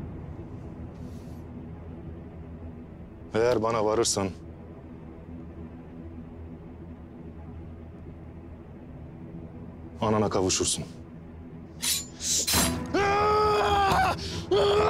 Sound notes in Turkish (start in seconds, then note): 11.8 Bıçak sesi; 12.9 Bağırma